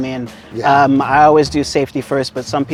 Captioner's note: pat